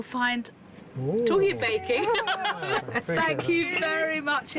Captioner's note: laughs